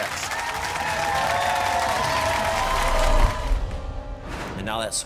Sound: audience cheering

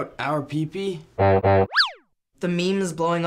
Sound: wacky noises

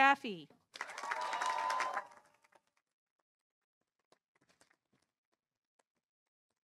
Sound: audience applauding; audience cheering

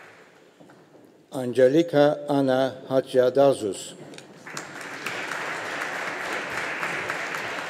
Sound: audience applauding

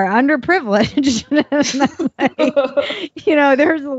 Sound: laughing

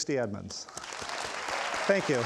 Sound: audience applauds

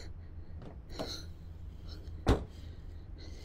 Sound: banging

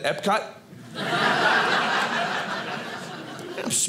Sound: audience laughing

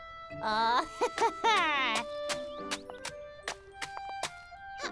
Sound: slapping

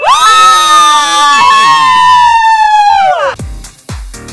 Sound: women cheering; funk music

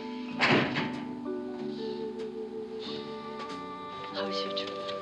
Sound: sighs

